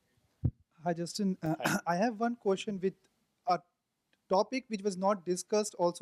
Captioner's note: voiceover